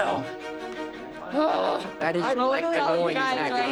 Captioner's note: groans